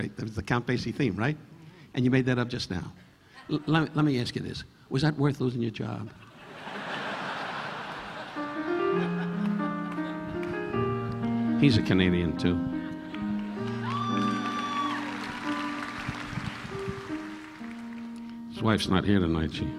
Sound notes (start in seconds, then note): 6.2 audience laughing; 8.2 relaxing piano music; 13.1 audience applauding; 13.3 audience cheering